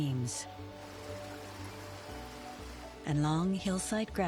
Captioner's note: water rushing